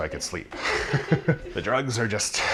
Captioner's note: woman laughs